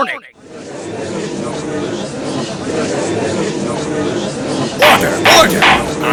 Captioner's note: gallery chattering